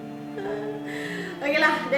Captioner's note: cries lol